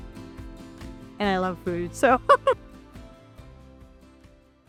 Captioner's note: laughs